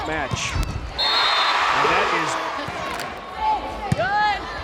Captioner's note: crowd cheering; whistle blows; players yelling